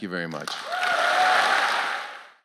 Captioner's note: applause